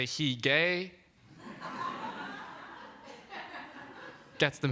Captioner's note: laughter